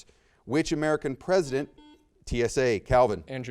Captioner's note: buzzer beeps